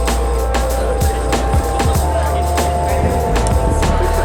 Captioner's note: indistinct chatter